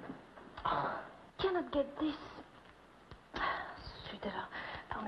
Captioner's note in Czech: mluví francouzsky